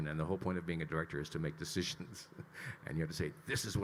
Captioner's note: chuckles